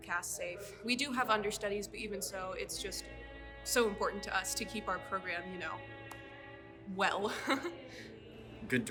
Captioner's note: laughs